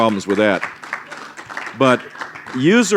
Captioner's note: applause